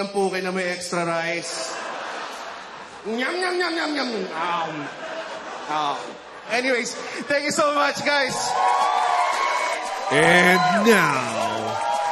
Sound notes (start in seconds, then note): 1.4 laughter; 8.1 cheering, applause